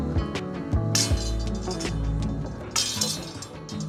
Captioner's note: metal clinking